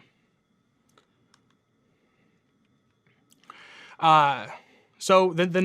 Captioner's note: computer mouse clicking